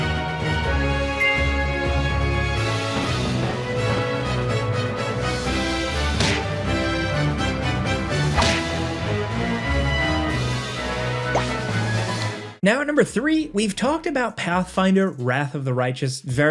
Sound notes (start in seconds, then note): 6.1 blows thudding